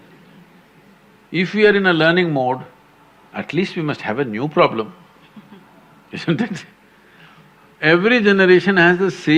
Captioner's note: laugh